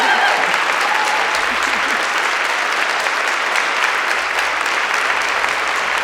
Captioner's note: audience cheering and applauding